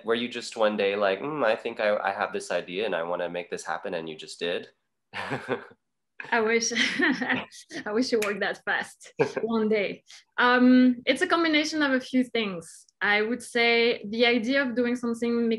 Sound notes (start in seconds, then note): 5.2 laughs quickly; 5.2 laughing